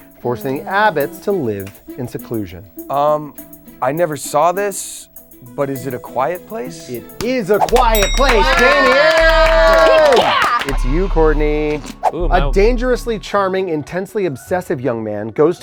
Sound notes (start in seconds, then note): 7.6 all cheering